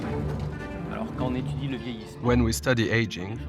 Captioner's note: speaking French